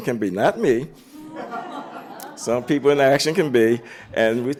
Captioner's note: laughter